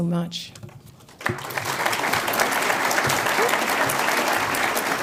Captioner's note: audience applauds